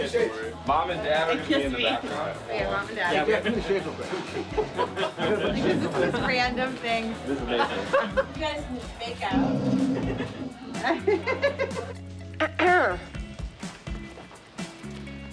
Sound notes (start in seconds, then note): 9.3 snoring; 12.4 clearing throat